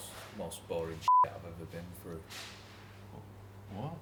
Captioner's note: beep